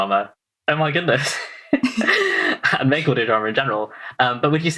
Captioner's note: laughs